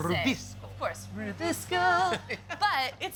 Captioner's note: rolling R